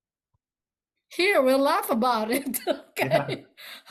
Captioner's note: both laughs